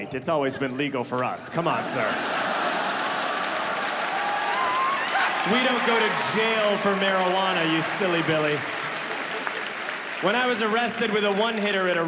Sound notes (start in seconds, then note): 1.5 audience laughing; 3.7 audience clapping